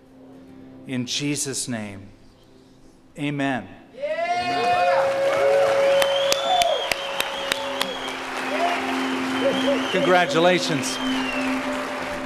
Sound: cheers and applause

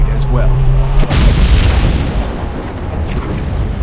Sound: explosion

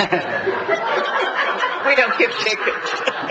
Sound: laugh

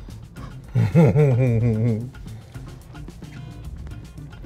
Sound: laughs

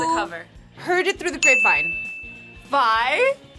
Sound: bell rings

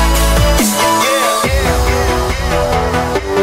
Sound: echoes

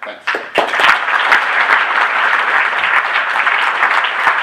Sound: applause

